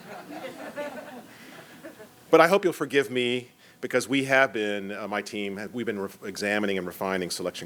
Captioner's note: laughter